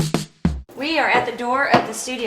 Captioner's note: upbeat music; footsteps thudding